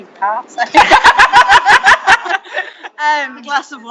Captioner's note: laughing